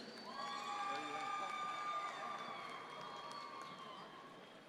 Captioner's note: audience members cheer